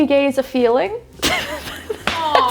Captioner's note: laughing